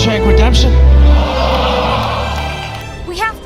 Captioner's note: audience laughing